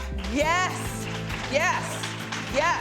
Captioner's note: clapping